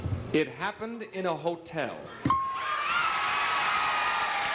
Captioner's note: cheers and applause